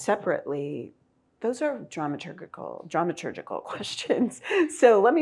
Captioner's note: laughs